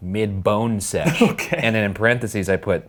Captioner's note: laughing